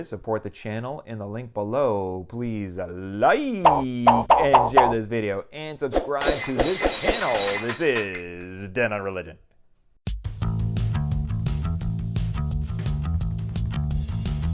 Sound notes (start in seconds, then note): 3.6 popping; 6.2 glass breaking